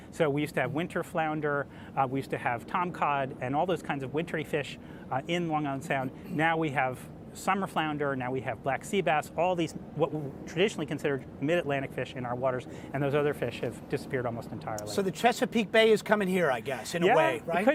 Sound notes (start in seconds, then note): none